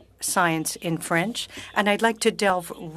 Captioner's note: speaking French